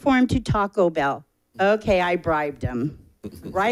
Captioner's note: people chuckling